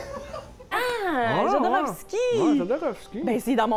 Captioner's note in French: rires dans la pièce